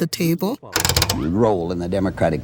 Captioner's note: knob clicking